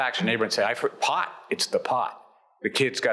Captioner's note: stutters